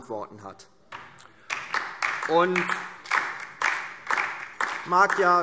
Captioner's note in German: Beifall DIE LINKE